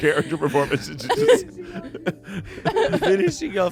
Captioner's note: everyone laughs